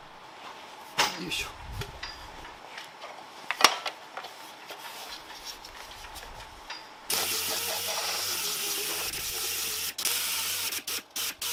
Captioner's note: working sound